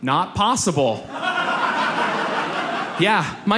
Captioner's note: audience laughs